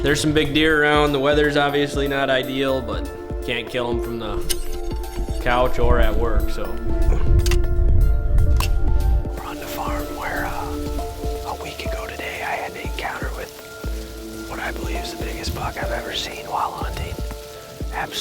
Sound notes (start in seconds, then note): 7.4 gun cocking sound